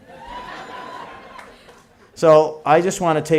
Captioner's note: laughter & Applause